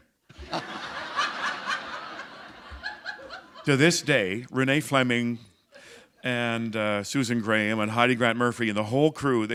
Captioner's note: laughter